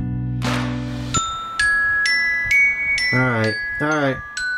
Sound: alarm ringing

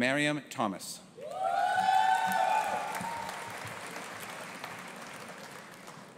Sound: audience applauding and cheering

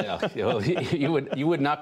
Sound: laughter

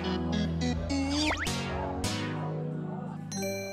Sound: dripping with sweetness

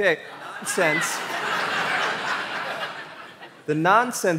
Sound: laughter

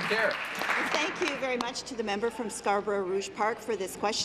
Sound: applause

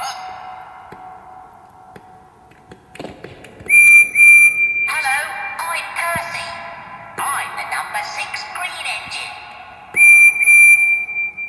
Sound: whistle blows

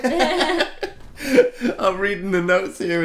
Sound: laughs

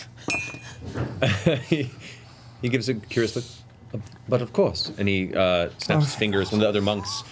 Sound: laughs

